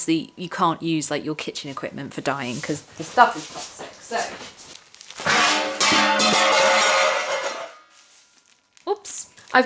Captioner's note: crash